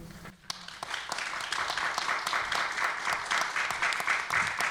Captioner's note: applause